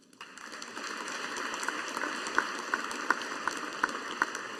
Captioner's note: audience applauding